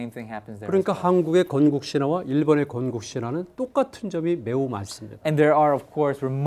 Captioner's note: speaking in Korean